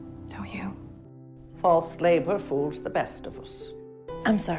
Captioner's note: voiceover